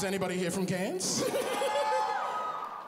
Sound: laughs

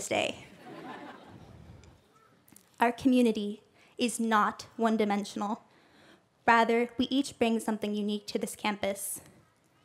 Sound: laughter

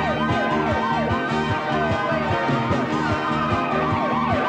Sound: tires squealing; man howling; upbeat music

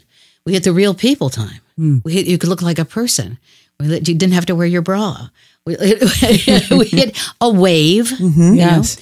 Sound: laughs

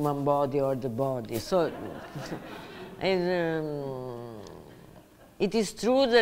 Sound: audience laughs

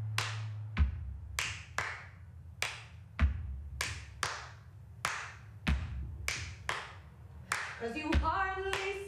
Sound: clapping and rhythmic stomping

